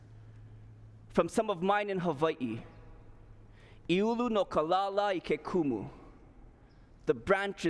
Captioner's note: non-english speech